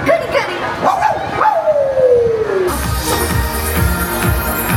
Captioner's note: Pluto barks; crowd cheers; upbeat music